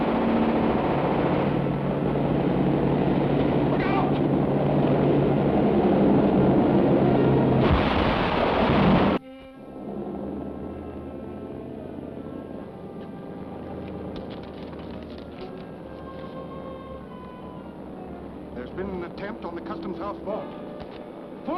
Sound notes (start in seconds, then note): 4.8 boats rumbling; 9.7 engine rumbles; 14.2 paper crumples